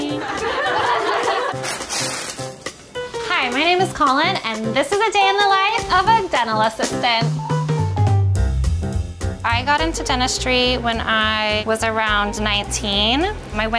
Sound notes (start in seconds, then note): 0.0 group laughing; 1.3 plastic rustling